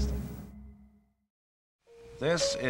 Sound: silence

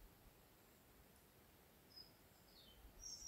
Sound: birdsong

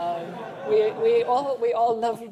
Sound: laughter

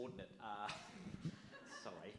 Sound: audience laughs

